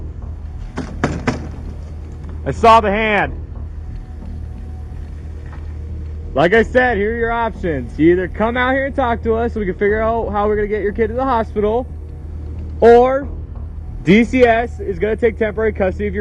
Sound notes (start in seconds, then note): 0.7 knocking door; 2.9 opening blinds